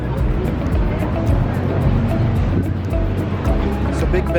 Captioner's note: crowd bustling